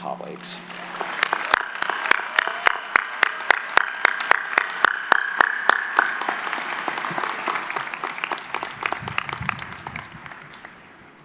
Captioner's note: applause